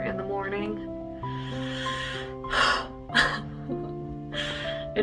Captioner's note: deep inhale, light chuckle